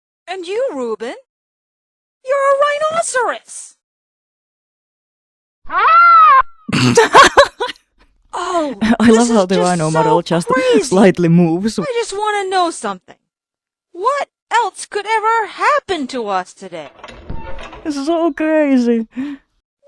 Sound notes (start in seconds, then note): 4.4 rhino noise apparently